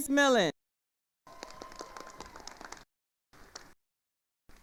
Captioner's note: attendees applauding